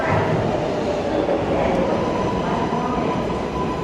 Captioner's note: none